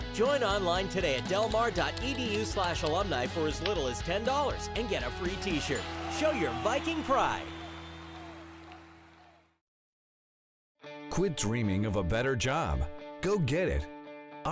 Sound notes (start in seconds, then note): 9.2 people cheering